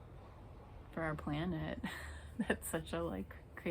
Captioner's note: loughs